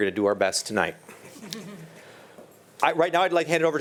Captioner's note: chuckles